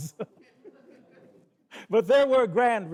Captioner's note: audience chuckles; laughs